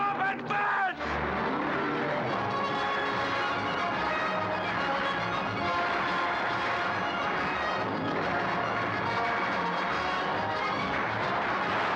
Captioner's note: sounds of battle; dramatic orchestral music